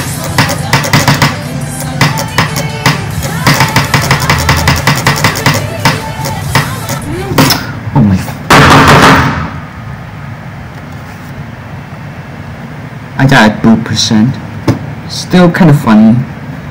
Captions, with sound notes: oh my- (TABLE SLAMS) I died at b**b percent. still kinda funny.